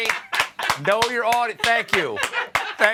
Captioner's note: applause